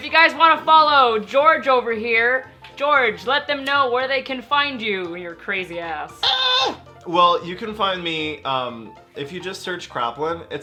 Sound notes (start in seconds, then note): 6.2 screeches